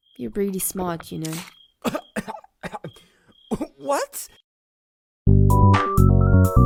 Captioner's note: coughs